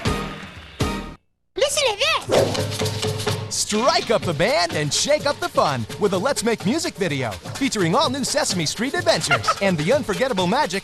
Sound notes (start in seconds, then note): 1.9 rattling